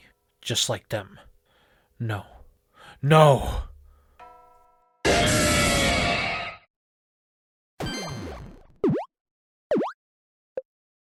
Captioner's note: Giratina roar sound effect